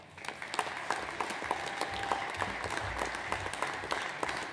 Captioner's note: audience applauds